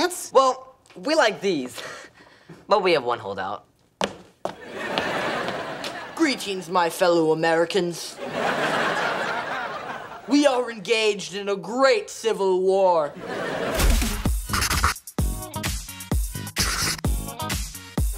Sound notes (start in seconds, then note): 4.6 laughing; 8.2 laughing